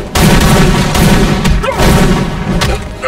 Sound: dramatic music continues; guns firing; officers grunting

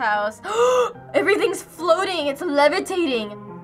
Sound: gasps

